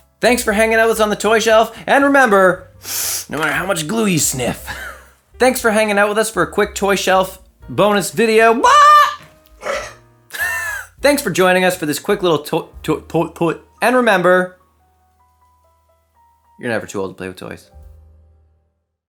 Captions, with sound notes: thanks for hanging out with us on the toy shelf and remember no matter how much glue you sniff thanks for hanging out with us for a quick toy shelf bonus video, BAAAA! *belch* thanks for joining us for this quick little toy toy toy toy and remember you're never too old to play with toys